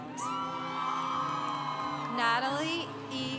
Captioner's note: congregation applauding